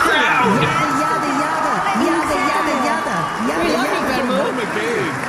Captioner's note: screaming